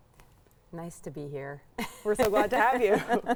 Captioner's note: laughs